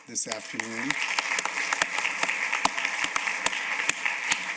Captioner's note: applause